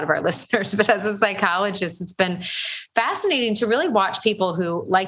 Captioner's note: laughs